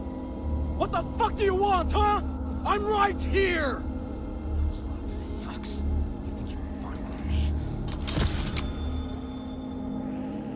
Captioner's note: whispering something idk